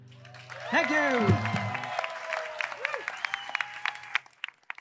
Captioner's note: audience cheering